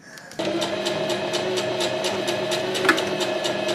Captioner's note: sewing machine surges